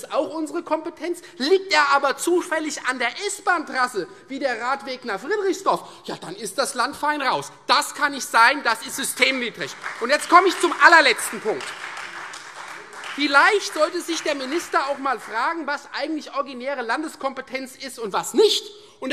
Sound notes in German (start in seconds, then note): 8.8 Beifall Freie Demokraten und SPD